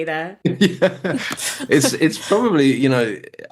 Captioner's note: laughs